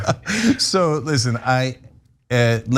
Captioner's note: laugh